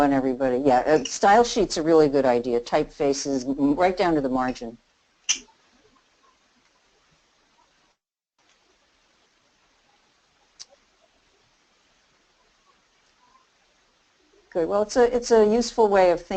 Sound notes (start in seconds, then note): 5.6 silence